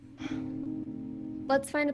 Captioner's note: sigh